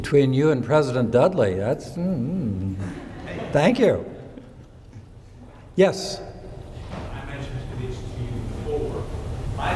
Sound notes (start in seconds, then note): 2.8 audience laughing